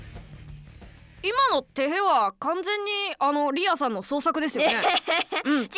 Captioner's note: giggle